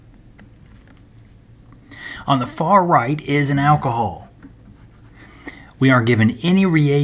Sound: turn page

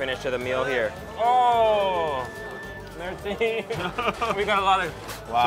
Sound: chuckling; laughs

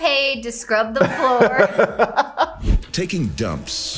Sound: laughing

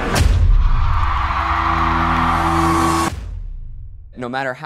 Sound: crowd cheering

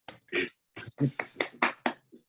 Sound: clapping

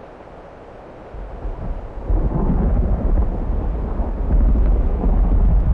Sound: sound of Thunder

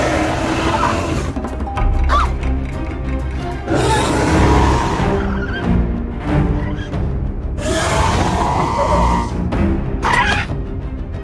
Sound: Dimetrodon Sounds

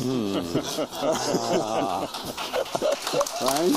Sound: applause

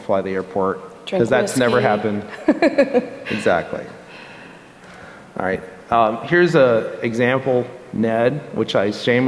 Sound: laughter

